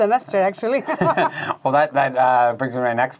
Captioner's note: laughing